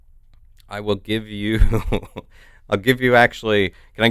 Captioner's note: chuckles